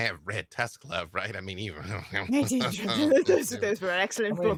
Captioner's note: laughs